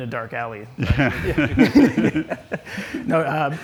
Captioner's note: laughs